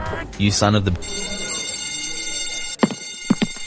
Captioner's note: school Bell Alarm